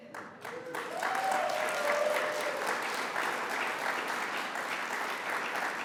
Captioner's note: audience applauds